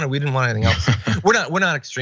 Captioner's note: laugh